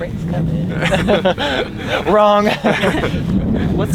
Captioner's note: all laugh